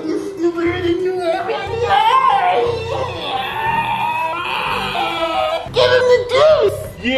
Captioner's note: maniacal screaming